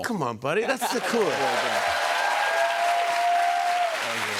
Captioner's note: cheers and applause